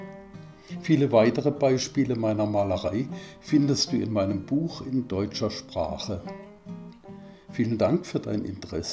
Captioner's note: in German